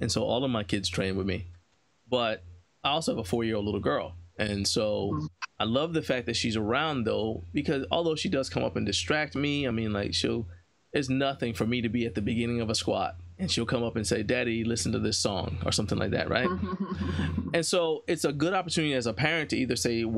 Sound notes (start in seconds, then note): 16.2 laughs